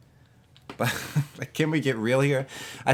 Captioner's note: laughs